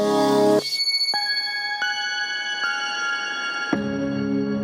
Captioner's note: gently chiming bells